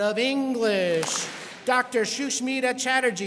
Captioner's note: students clap